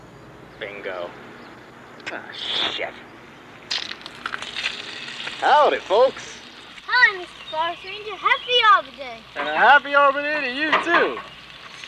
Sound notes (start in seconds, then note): 4.1 sizzle sound